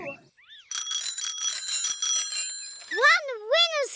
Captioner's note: bells ring